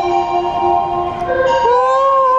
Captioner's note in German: U-Bahn klingt